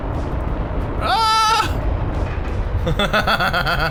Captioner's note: screams; laughs maniacally